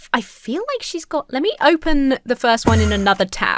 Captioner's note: Enderman whooshes